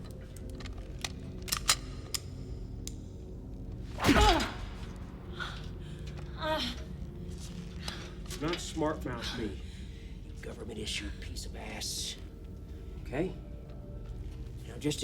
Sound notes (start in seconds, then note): 0.4 gun clicking; 4.0 punch thud; 4.0 Kelly groans